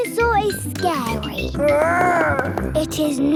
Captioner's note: growls